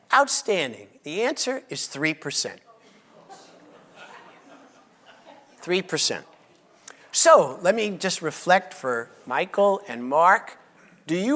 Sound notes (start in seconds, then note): 3.1 audience laughs